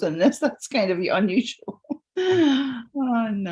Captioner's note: laughs